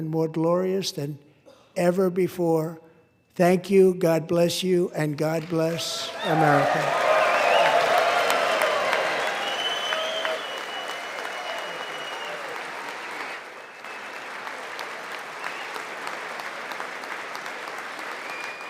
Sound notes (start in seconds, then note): 7.7 applause